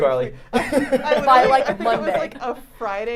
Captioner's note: laugh